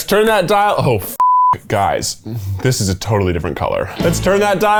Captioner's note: beep